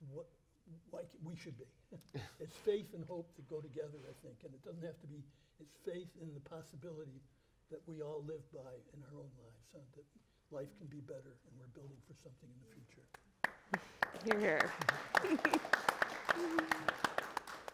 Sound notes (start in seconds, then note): 1.9 panelist chuckles; 2.0 chuckles; 13.4 audience applauding; 14.6 chuckles